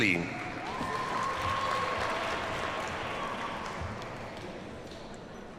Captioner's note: audience cheers and applauds